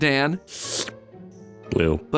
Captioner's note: slurp